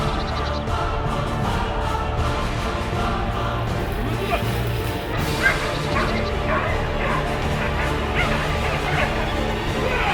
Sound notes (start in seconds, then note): 5.1 dogs barking; 6.2 intense music